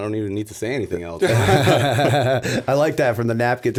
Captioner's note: laughter